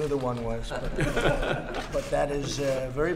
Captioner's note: laughter